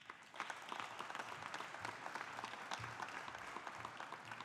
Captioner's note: audience applauding